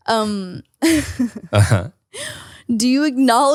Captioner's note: laughs